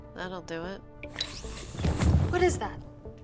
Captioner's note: soft whooshing